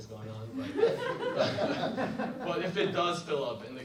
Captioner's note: audience laughs